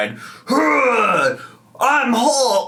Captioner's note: grunts